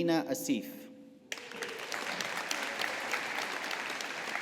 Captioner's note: audience applauding